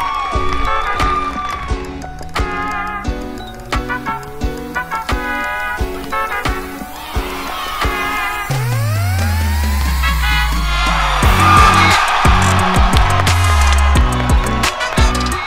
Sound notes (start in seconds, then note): 1.5 upbeat music; 10.4 cheering